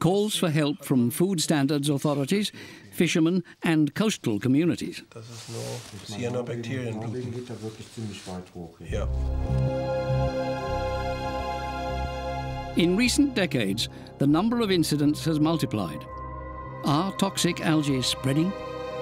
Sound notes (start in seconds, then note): 5.4 both speaking German; 9.5 suspenseful music